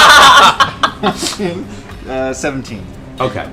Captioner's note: laughter